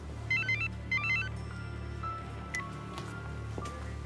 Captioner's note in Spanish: Suena celular